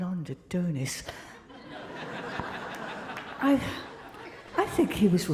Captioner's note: crowd laughing